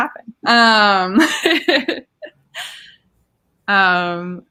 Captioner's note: laughing